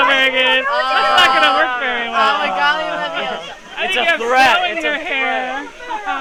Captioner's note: laughs